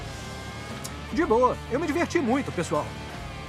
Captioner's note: clicks tongue